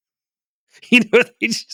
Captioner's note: laughs